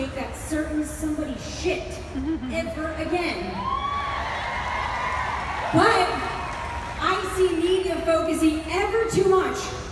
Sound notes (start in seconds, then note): 3.5 crowd cheers